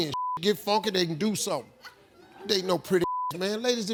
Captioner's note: beep; beep